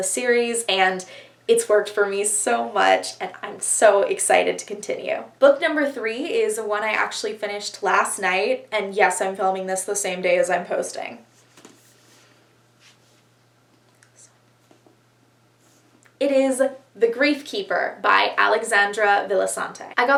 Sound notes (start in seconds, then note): 12.7 awkward shuffling